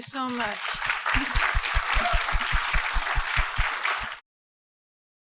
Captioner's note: applause